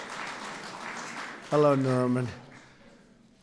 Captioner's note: applause